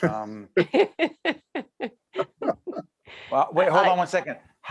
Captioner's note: laughing